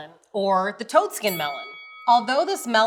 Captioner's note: bell dings